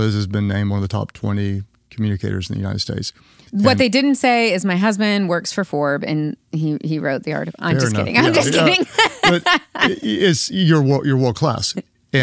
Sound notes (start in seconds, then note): 7.7 laughs